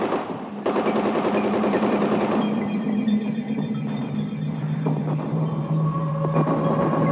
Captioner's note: guns fire; chiming music